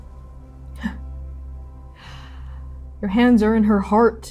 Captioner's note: laughing softly, inhaling